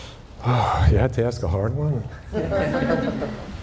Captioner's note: sighs